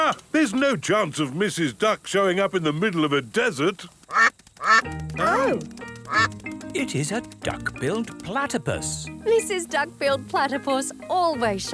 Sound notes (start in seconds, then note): 4.6 quacking